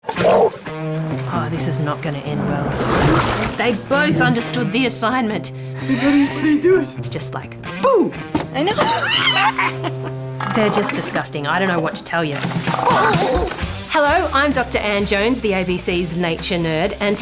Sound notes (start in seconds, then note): 1.1 roars; 5.8 laughs; 8.7 screams and laughs; 8.9 screams